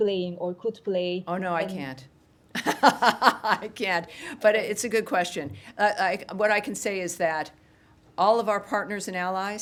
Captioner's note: laughter